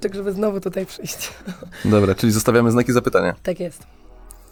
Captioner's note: śmiech